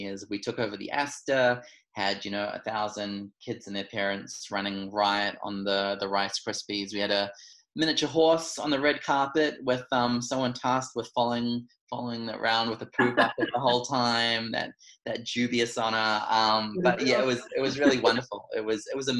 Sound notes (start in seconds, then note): 12.7 laughs